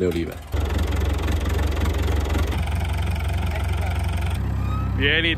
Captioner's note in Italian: suono di fondo di trattore